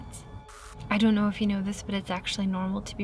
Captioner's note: static crackles